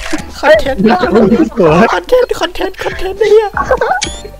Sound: dying from laughters

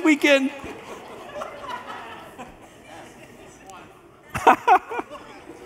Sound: congregation laughs; pastor laughs

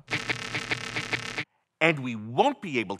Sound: static crackling

